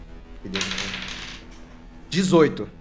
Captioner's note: dice sounds